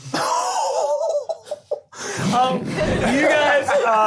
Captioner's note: laughing